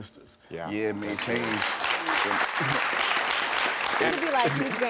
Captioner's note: audience clapping